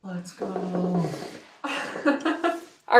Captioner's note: chuckles